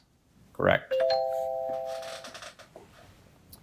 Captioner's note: bell ringing; chair creaking